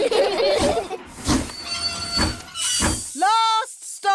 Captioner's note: laugh; train chugs